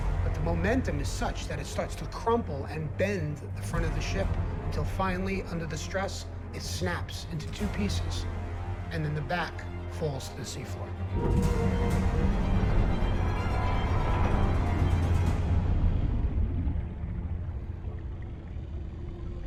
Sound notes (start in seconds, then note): 11.1 metal grinding; 11.5 suspenseful music